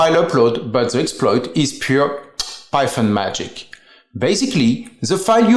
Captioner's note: smooches